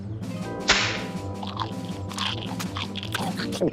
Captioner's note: carrots crunching; pants snap